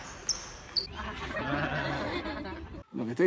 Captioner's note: laughs